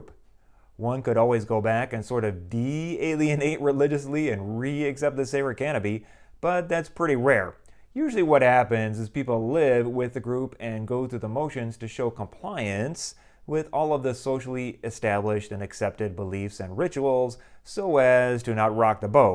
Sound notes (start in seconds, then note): none